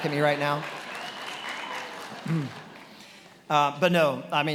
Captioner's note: attendees cheering and applauding